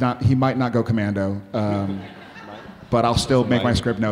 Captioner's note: audience laughing